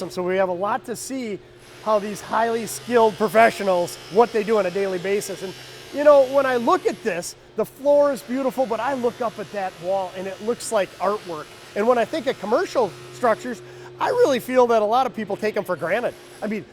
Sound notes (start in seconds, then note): 5.1 machinery whirring